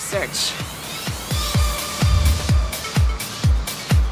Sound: special beam teleport sound

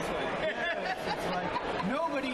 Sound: laughing

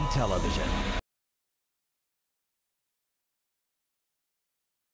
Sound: silence

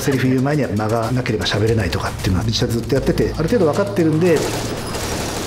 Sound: speaks Japanese

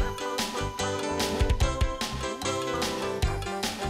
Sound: humming

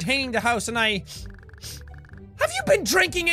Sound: sniff sniff

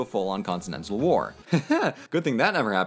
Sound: awkward laugh

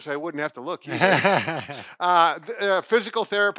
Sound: laughs

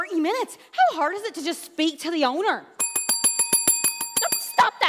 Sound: bell continues ringing

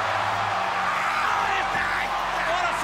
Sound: screams

